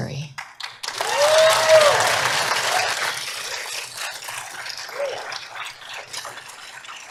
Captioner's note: applause